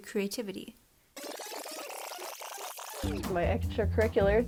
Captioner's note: rewind sound effect